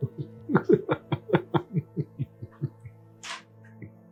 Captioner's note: Peter laughing